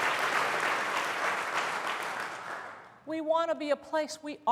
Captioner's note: applause